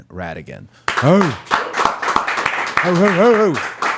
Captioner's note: audience applauding